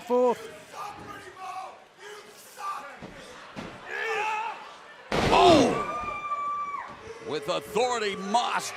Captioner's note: crowd chatter